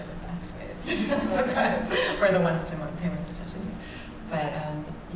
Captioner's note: laughs